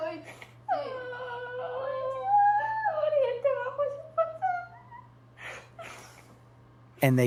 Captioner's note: crying